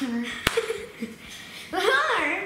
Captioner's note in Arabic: يضحك